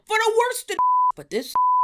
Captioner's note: beep